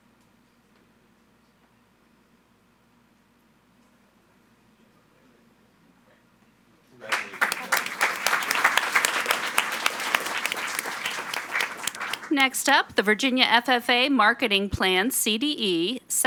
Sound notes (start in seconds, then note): 7.0 audience applauding